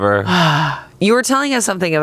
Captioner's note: sighs